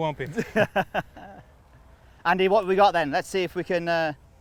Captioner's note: laughing